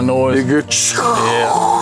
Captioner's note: growling